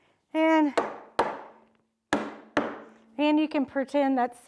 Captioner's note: hammering